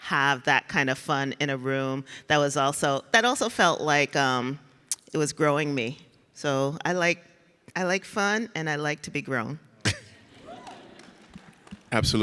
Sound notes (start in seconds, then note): 9.8 laughs; 10.0 audience laughs